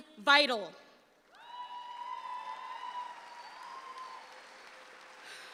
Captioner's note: audience cheers